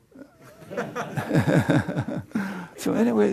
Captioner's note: laughter